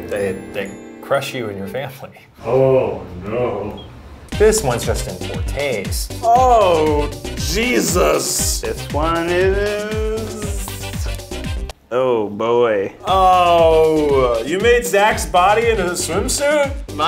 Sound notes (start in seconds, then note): 2.4 sounds of absolute despair and horror